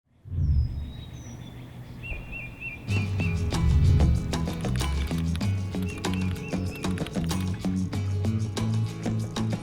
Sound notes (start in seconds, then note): 0.1 bird chirping; 7.0 soft music